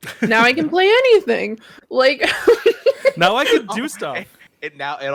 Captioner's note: laughing